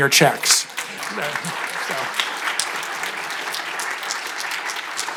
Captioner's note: audience applauding